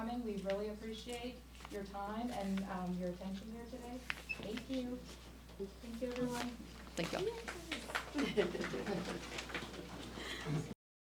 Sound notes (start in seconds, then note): 7.4 clapping; 7.8 speakers chuckle